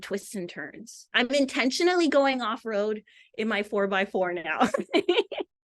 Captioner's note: laughs